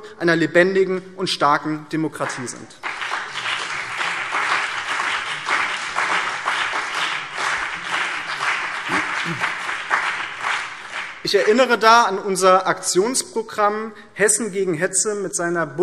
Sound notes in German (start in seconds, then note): 4.0 Beifall BÜNDNIS 90/DIE GRÜNEN und CDU